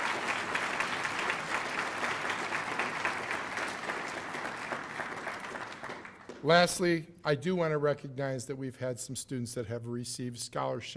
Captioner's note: cheers and applause